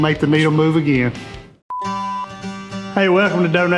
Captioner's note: tone beeping